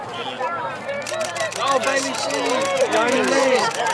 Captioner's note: other people yelling